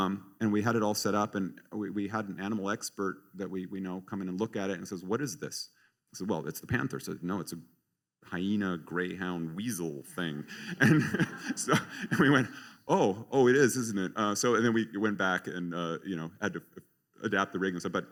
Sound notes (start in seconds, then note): 10.5 laughter